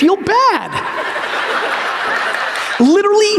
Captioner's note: audience laughs